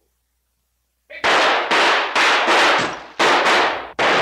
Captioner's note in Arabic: إطلاق نار